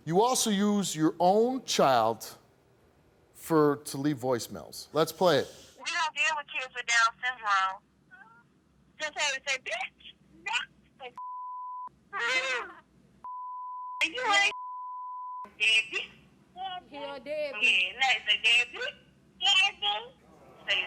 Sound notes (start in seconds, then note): 13.2 beep